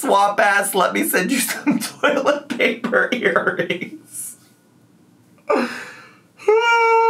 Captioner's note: laughs